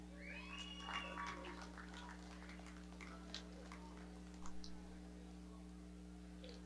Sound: audience cheering

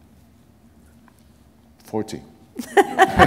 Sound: laughter

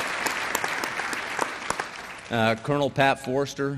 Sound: applause

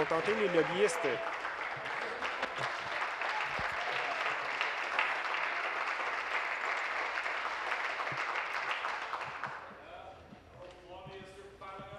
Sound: applause

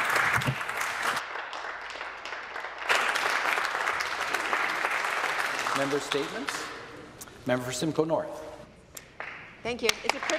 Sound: applause

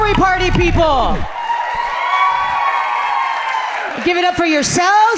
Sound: audience cheering happily

